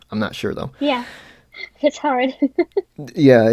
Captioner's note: laughs